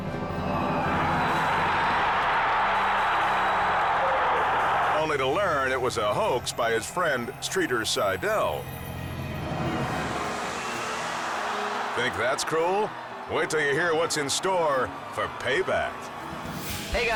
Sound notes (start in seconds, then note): 0.0 suspenseful music; 0.2 crowd cheers; 8.4 suspenseful music continues; 9.8 crowd roars